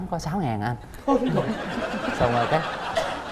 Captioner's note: laughing